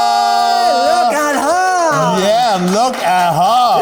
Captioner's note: all clap and cheer